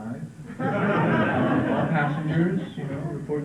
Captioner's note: laughter